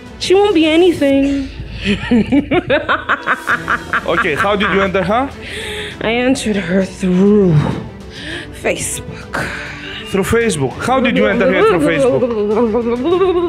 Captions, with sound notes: She won't be anything! [laughing] - How did you enter her? - I entered her through Facebook! Through Facebook! How did you enter her through Facebook?